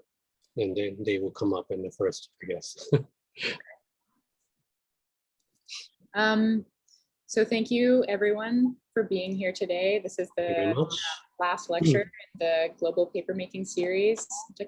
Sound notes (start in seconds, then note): 2.8 chuckles